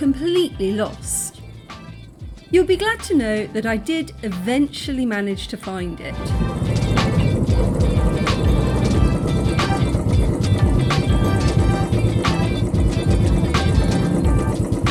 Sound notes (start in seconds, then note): 6.3 motorbike engine; 7.4 upbeat music